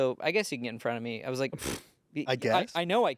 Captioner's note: scoffs